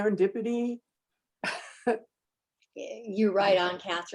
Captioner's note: chuckles